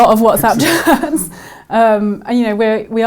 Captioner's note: laughs